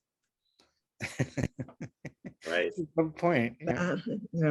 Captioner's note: laughs